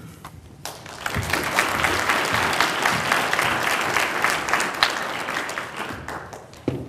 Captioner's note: applause